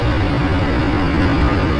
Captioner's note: motorcycle engine